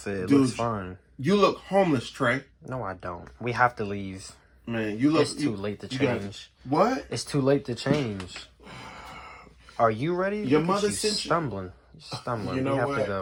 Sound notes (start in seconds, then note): 8.6 sighing